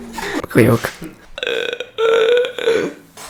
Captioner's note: squeeking